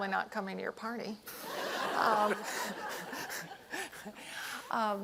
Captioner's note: laughter